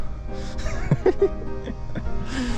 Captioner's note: laugh